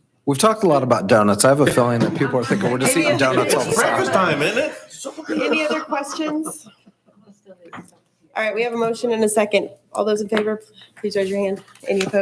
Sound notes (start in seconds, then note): 6.0 chuckles